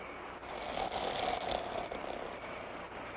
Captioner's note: snoring